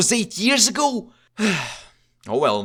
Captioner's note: sigh